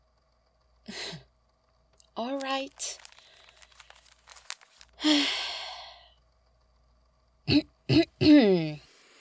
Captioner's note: sigh, clears throat and pauses